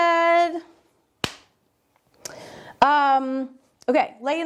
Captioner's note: hands clap